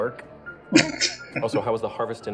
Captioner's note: chuckling